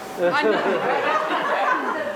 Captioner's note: laughter